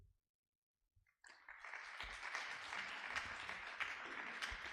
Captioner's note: audience applause